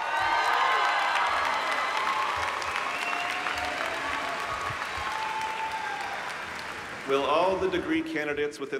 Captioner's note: applause